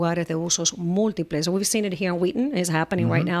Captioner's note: Hablando ingl\s